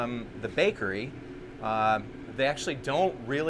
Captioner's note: ovens humming